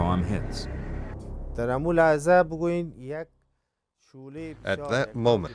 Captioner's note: non-english speech